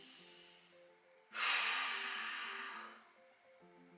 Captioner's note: sighs